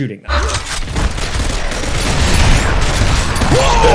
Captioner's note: guns booming; guns clacking